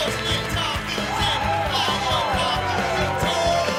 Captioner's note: funky rock music; crowd cheers